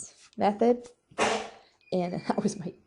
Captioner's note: dog banging